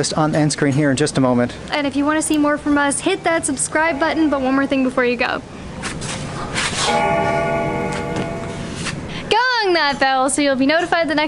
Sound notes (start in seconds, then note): 6.8 bell dings